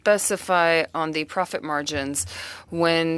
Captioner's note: speaking French